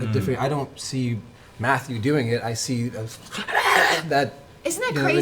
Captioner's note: creature noise